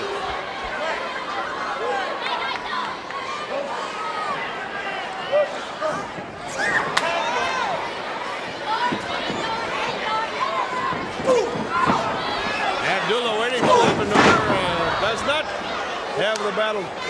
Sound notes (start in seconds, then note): 1.8 crowd chatter